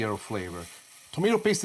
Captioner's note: sizzling